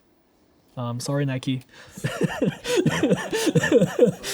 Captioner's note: laughing